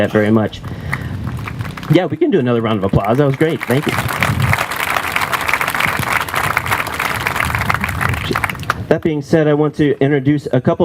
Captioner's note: applause